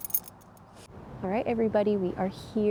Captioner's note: keys jingle